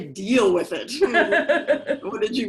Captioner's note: laughs